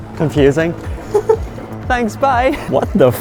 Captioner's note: laughing